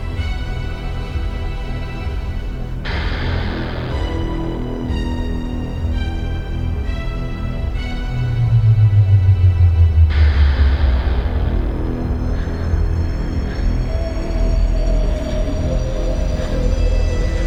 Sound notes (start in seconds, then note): 10.2 anxious breathing; 15.2 heartbeat going faster